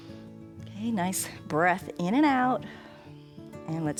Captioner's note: exhales